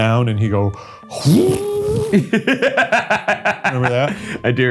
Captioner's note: exclaiming; laughing